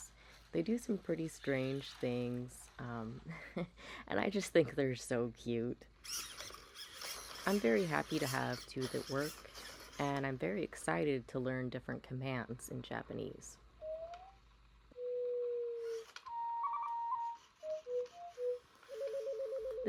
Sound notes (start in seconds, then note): 3.2 chuckles; 6.0 mechanical whirring; 13.8 Tsukiko makes a series of bizarre noises